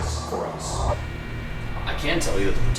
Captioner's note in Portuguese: Distorção de áudio